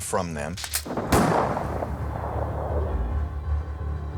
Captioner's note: gunshot echoes